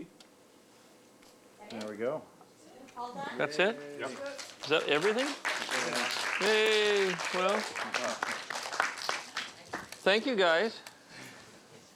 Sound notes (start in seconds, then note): 4.0 applause